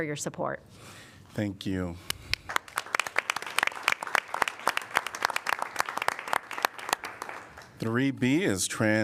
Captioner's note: applause